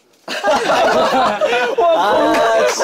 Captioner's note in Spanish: Jajaja